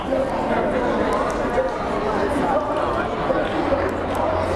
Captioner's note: chattering